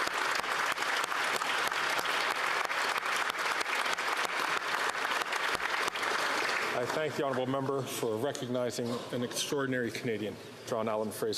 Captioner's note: applause